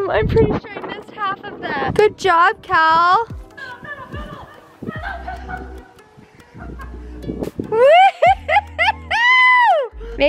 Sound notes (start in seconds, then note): 5.8 laughing